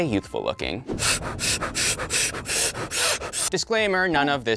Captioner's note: heavy breathing